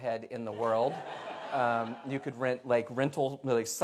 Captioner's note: laughter